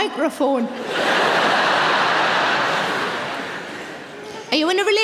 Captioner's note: audience laughing